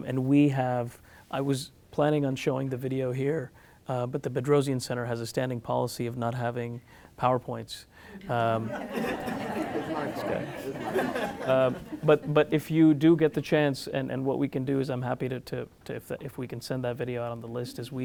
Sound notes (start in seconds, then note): 8.2 laughs